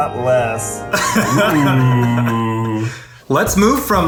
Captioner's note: laughs